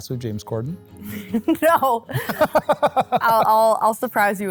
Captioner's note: both laughing